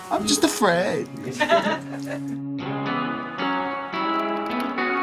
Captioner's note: people laugh